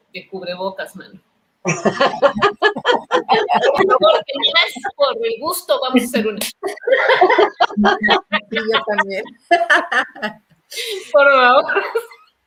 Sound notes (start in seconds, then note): 1.6 laughs